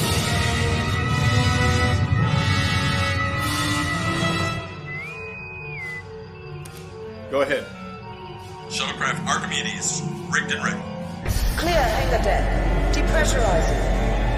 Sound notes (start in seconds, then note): 4.6 whistle; 6.6 click; 8.6 comm voice